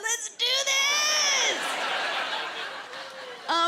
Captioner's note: laughter